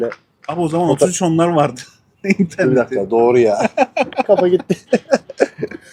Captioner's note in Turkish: kahkaha